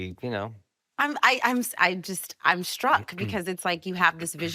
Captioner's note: stammering